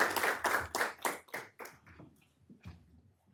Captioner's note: applause